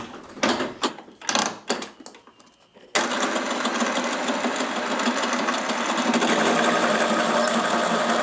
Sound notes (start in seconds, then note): 2.8 buzzing rattling